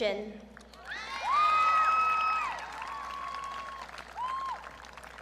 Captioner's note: audience cheering